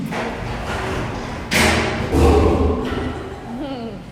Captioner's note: door opening; lion growl